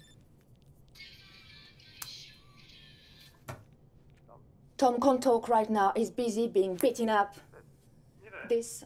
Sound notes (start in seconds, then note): 0.9 musical ring tone